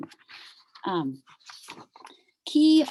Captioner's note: papers rumbling